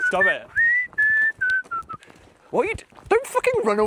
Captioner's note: whistling